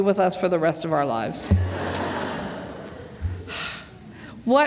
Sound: laughter

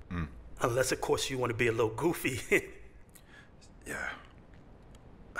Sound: chuckles

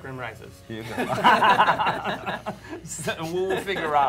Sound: laughter

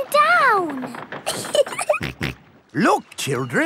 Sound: giggling; snorts

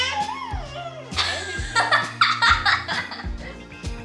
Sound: babbles; laughing; rhythmic music

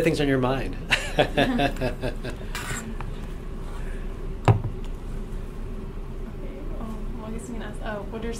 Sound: laughs

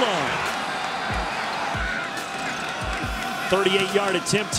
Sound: crowd cheering

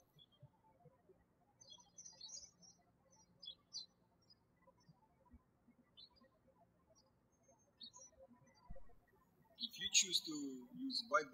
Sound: birds chirping

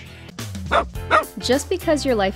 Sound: dog barking

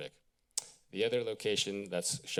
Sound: clicks tongue

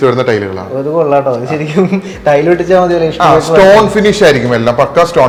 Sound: laughing

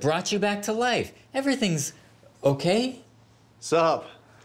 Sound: none

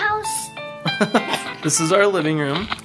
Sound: dad chuckles

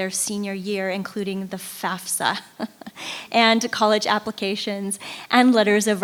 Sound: laughing

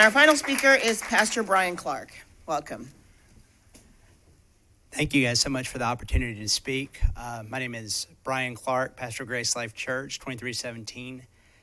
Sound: applause

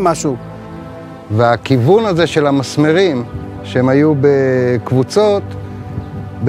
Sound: speaking in foreign language

